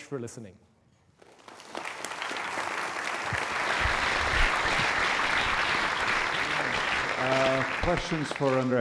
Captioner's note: applause